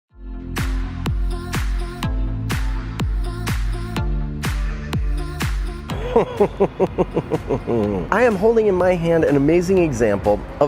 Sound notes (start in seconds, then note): 0.4 upbeat music; 6.0 laughter